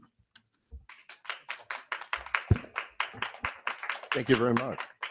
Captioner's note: audience clapping